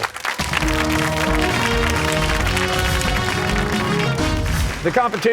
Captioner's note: cheers and applause